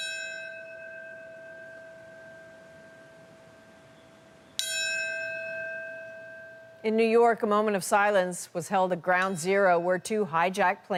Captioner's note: bell tolling